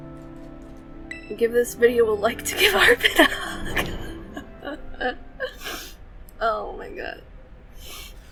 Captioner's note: laughs